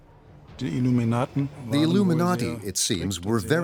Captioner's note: speaking in German